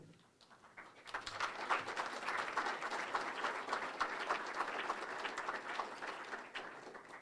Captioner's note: applause